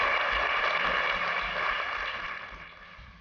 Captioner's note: applause